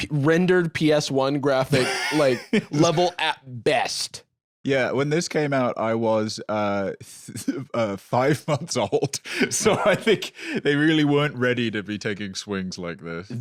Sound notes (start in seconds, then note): 8.8 laughs